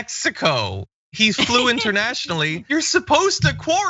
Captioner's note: laugh